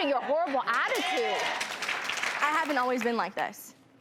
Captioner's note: audience cheering